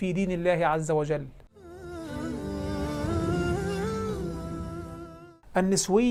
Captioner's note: logo and sound effect